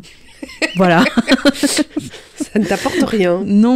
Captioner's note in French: rires